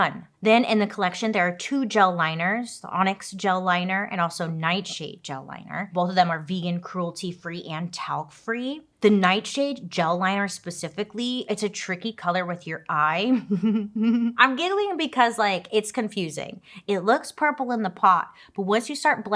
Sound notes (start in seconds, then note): 13.4 laughs